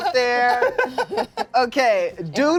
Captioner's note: cast laughs